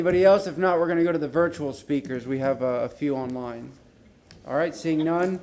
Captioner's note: laughter